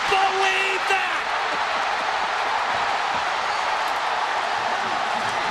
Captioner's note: crowd cheering